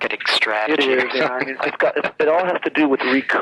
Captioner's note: laughs